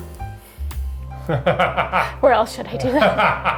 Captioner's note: laughing